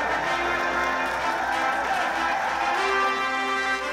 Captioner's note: cheering